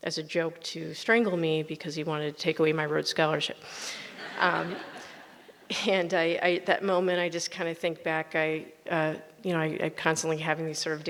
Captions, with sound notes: as a joke to strangle me because he wanted to take away my Rhode Scholarship. (audience laughs) That moment I just kind of think back, you know, I constantly having these sort